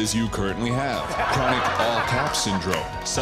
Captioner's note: laughter